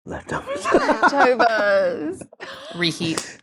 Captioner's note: chuckling